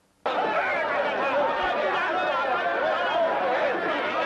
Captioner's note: crowd clamoring